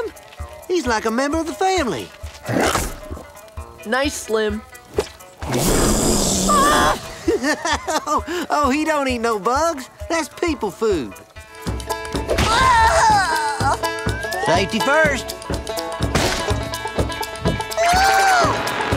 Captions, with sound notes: He's like a member of the family! Nice, Slim. [hissing] [screaming] [laughing] Oh, he don't eat no bugs! That's people food. [groaning loudly] Safety first!